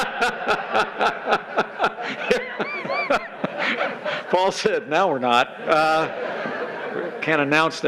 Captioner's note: laughter